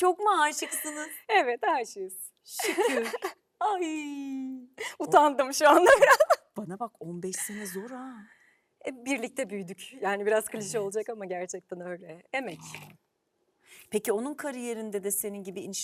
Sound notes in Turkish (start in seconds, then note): 5.2 kahkaha